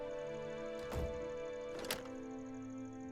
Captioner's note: door closes